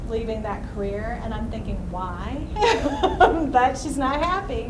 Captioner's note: laughs